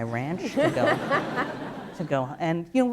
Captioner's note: laughter